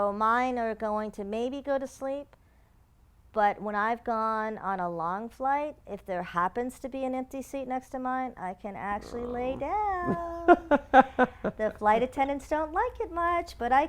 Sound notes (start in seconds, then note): 11.3 laugh